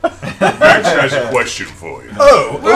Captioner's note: laughter